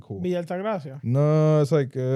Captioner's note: speaking In Foreign Language